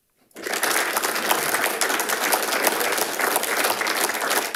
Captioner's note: audience applauding